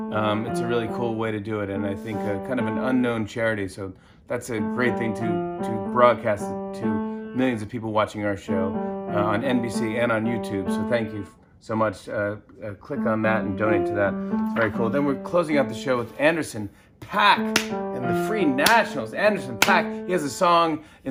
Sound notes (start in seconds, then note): 17.5 clap